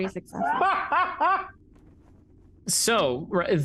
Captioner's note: Omega laughs